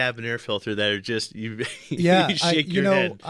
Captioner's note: laughs